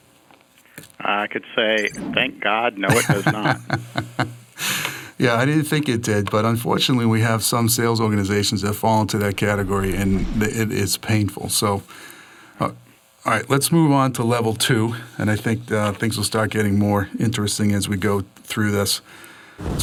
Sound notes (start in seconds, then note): 3.3 laughs